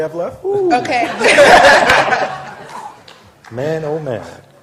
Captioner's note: laughter